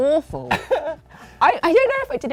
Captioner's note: laughs